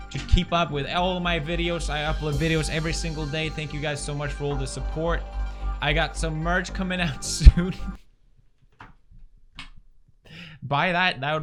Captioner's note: laughs for no reason